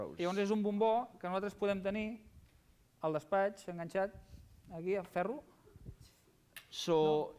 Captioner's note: non-english speech